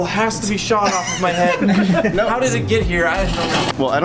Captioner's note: laughing